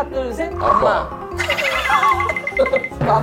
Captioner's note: laughter